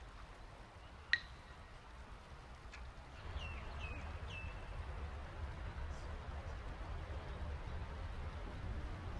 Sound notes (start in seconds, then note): 3.1 bird chirps